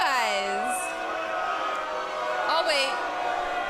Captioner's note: crowd cheering